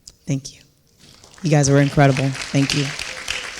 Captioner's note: audience clapping